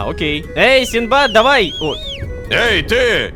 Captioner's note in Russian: Свист